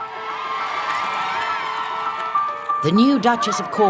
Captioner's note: crowd cheers